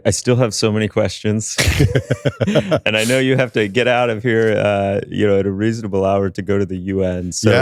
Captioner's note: laughter